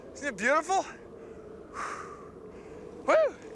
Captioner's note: exhales deeply